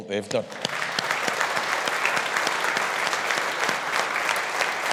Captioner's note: audience applauding